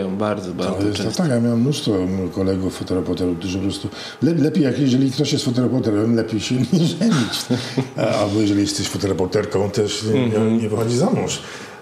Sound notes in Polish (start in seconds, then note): 6.6 śmiech